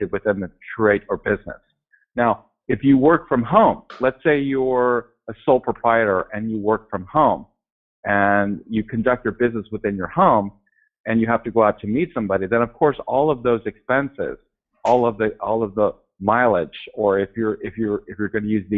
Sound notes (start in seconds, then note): none